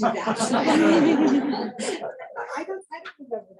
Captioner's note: laughing